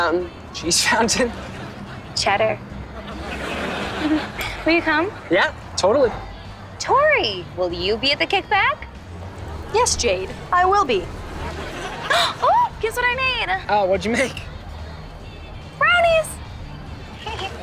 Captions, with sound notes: Cheese fountain? Cheddar. [chuckles] - Will you come? - Yeah, totally. Tori, will you be at the kickback? Yes, Jade, I will be. [gasping] Ooh, guess what I made. What'd you make? Brownies. [giggling]